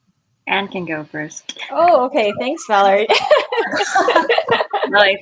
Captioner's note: laughs